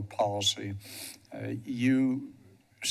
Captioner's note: sniffs